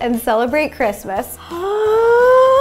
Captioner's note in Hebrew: השתנקות